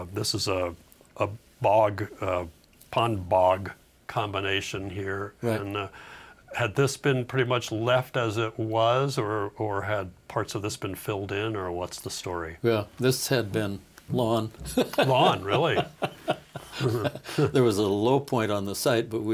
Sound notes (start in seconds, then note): 14.6 laughing